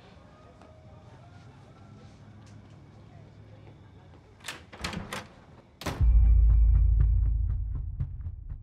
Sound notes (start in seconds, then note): 4.4 door closing; 4.4 door opening